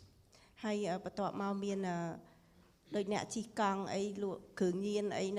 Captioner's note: speaking foreign language